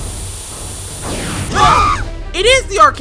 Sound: loud flash; screaming

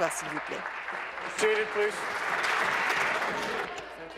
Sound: applause

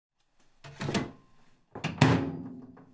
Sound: plate thuds; microwave door clangs

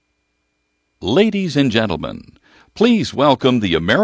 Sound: voiceover

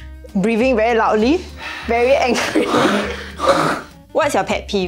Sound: aggressive breathing

